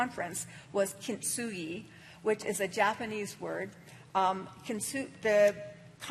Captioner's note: speaking japanese